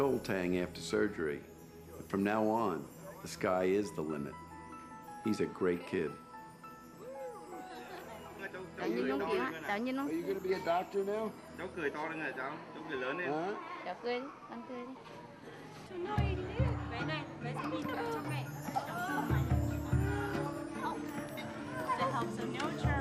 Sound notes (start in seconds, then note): 6.2 foreign language; 11.3 speaking in foreign language